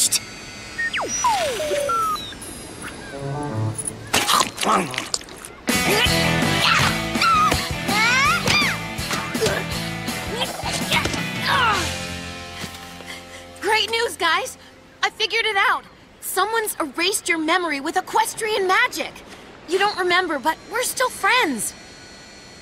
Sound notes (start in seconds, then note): 0.0 drone beeps; 4.1 munching; 11.4 groans; 12.8 panting